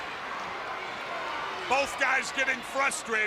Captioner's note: crowd cheering